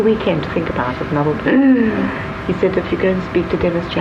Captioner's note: gasps